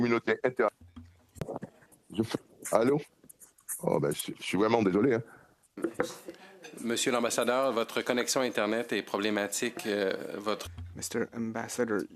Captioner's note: speaking French